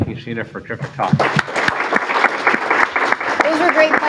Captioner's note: applause